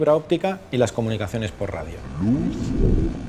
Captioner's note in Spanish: Voz en off